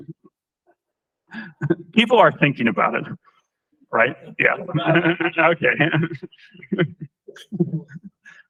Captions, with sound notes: People are thinking about it, right? Yeah. [LAUGHTER] OK.